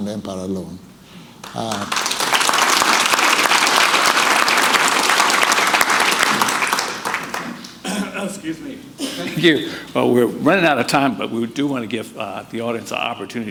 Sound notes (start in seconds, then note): 1.4 audience applauding